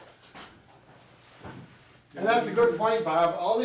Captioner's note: objects rustle